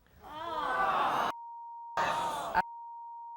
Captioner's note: audience booing and hissing